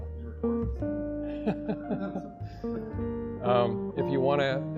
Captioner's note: chuckles